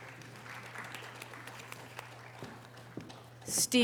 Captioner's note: audience applause